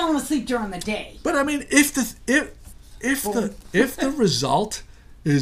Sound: voiceover

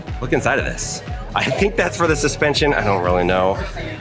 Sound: laughs

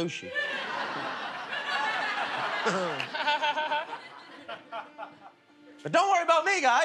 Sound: laughter

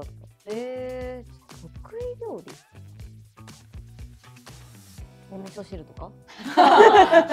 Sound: laughs

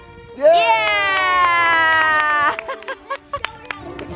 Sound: family cheers

